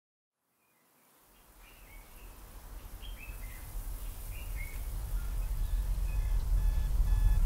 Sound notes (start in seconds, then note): 2.6 birds chirping